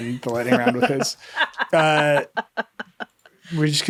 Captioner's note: laughing